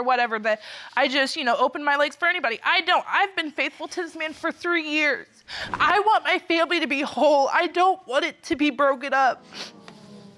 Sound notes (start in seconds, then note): 4.8 tearfully